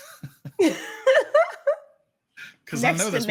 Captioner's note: laughing